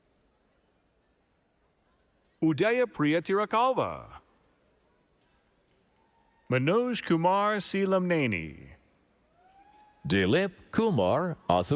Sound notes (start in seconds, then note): none